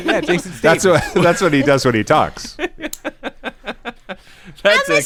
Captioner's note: laughter